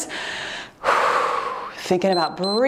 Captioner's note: puffing air; timer beeps